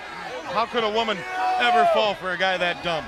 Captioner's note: crowd chatter